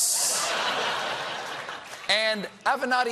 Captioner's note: laughter